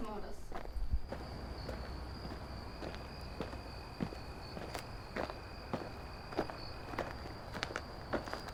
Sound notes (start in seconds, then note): 0.0 footsteps and crickets chirping